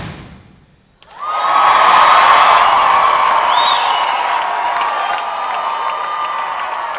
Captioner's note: audience cheering and applauding